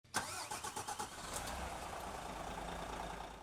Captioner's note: motor starting